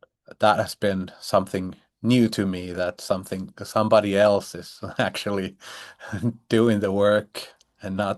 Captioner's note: chuckles